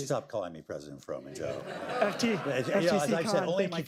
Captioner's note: laughter